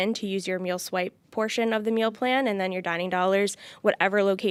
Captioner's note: none